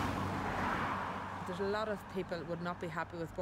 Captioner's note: cars drive